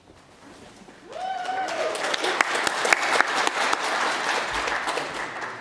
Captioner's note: audience cheers and applauds